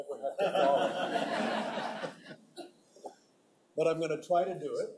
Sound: audience laughing

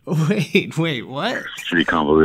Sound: laughter

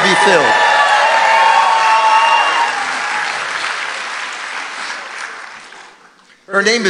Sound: congregation cheering

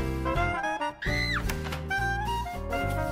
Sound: woman shrieks

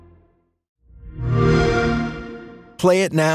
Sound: xbox sound

